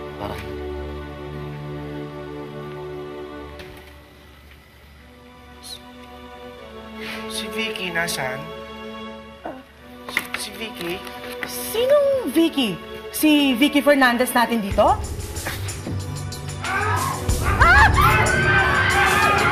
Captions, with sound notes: For Vicky. Whe-- Where is Vicky? -Uh... -Where's Vicky? Who's Vicky? You mean, our Vicky Fernandez? [intense music plays] [all screaming]